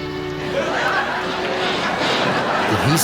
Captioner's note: audience laughing